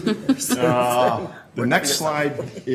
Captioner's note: laughter